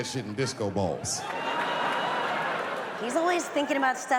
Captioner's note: audience laughs